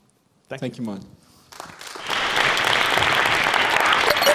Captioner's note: applause